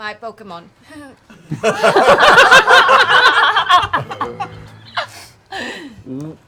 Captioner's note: laughter